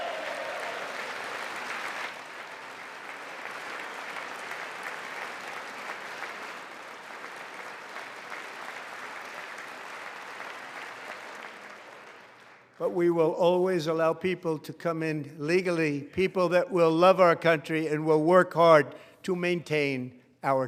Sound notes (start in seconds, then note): 4.7 applause